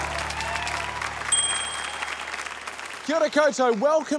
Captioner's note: ding!